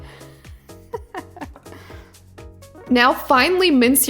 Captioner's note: laughs